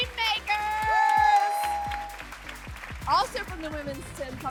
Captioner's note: cheering